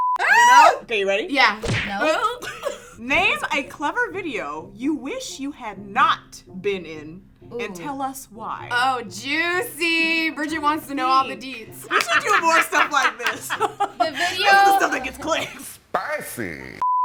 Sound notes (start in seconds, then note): 0.1 surprised scream; 1.6 punch sound; 2.0 laughs; 11.8 laughs; 16.8 beep